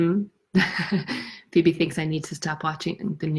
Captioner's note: chuckles